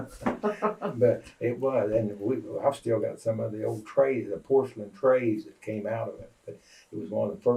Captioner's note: laughter